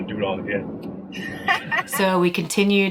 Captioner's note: laughing